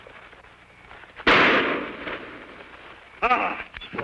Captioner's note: gunshot